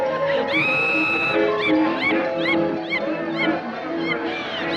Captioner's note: animatronic laughing